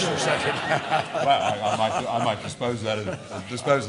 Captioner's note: laughter